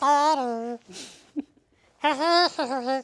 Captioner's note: laughing